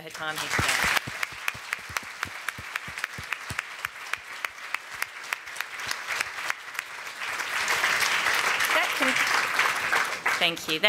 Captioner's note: applause